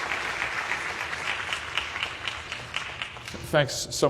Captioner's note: applause